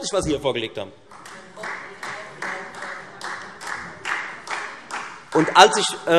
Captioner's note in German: Beifall